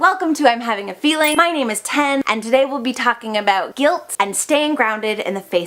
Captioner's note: chime